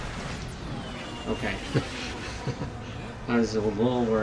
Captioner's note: chuckles